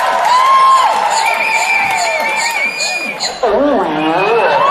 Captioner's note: beatboxing